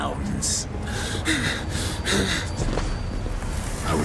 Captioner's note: man whimpering